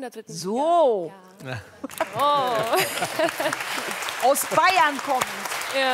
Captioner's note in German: Applaus